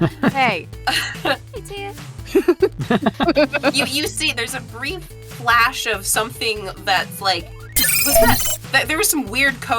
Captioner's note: EVERYONE laughs; electronic trill